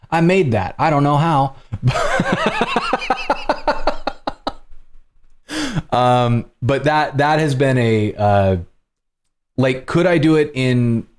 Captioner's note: laughter